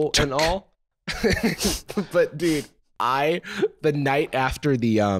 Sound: laughing

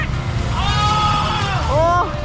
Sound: screaming from coldness

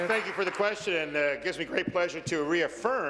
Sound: applause

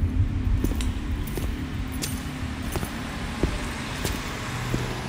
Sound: footsteps

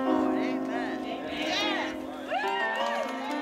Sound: crowd

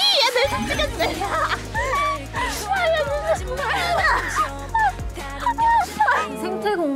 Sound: laughter full of happiness that can melt the coldness

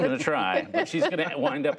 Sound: laughter

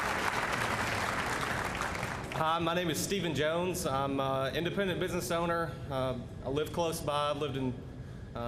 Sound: applause

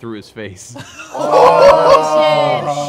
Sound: laughter

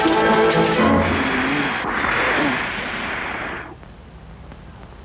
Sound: blowing sound

